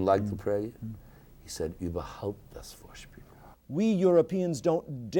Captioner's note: speaking a foreign language